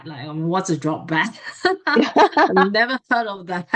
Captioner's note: both laugh